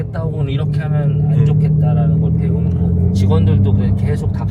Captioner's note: none